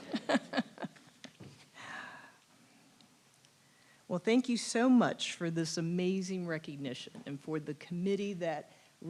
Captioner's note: laugh